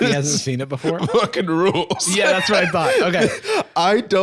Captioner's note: laughing